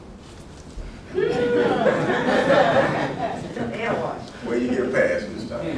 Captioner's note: laughter